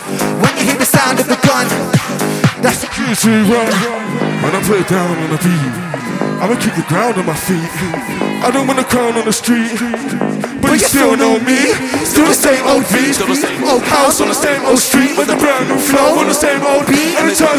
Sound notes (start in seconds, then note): 2.3 blat